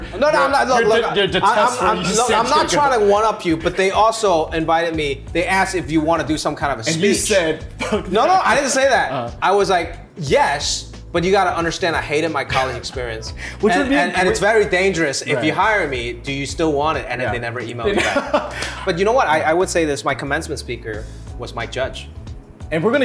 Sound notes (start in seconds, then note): 2.2 laughs